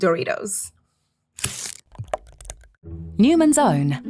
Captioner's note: seal rips; ranch squelching